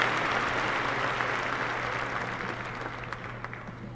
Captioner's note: applause